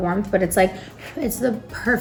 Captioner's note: blows air